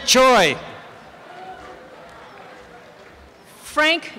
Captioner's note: applause and cheering